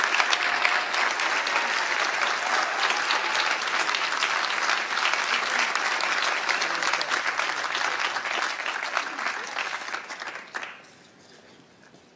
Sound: applause

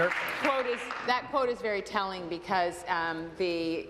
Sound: applause

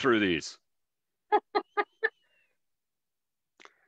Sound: laughs

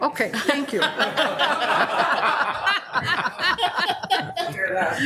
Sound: laughing

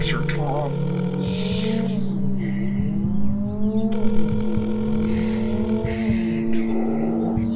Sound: phone ringing

